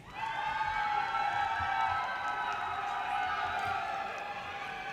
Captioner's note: audience cheers and applause